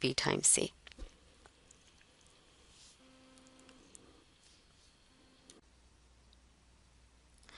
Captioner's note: pause